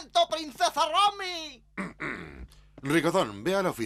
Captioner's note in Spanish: carraspea